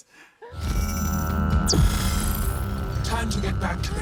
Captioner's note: whirring